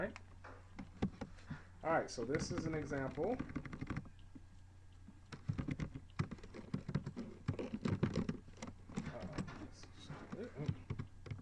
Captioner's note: typing sounds